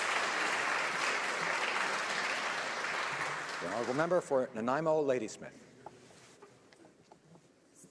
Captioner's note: applause